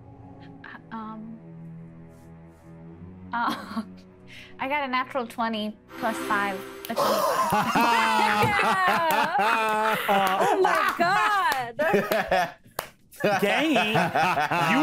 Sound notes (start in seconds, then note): 6.8 cast clapping and laughing; 11.8 laughing